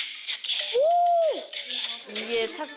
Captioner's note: hooOOO